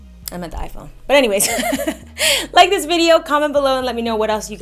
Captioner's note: laughs